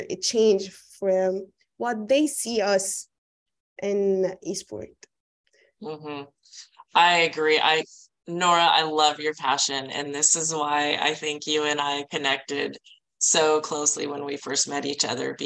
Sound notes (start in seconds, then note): none